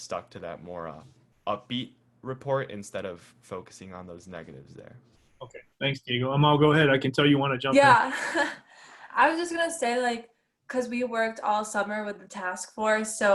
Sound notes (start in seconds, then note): 7.7 giggles